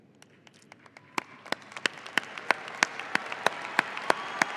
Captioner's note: audience applauding